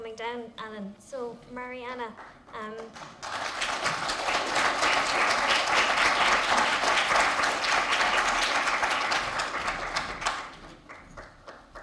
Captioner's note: applause